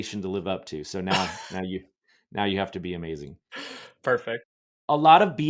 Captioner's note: chuckles